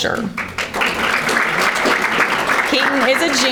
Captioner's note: audience applauding